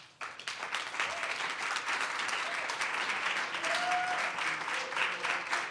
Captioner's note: audience cheers and applause